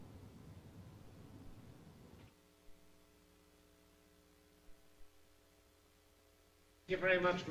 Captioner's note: pause